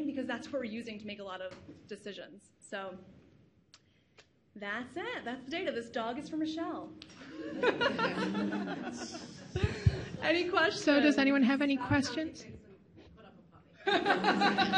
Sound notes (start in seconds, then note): 7.2 laughs